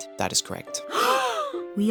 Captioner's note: all gasp